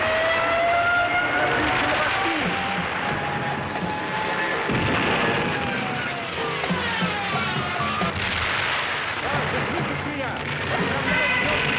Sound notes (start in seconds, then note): 4.5 planes screaming continues; 9.4 soldier speaking in foreign language; 11.6 planes screaming